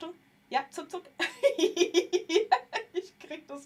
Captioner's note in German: gelächter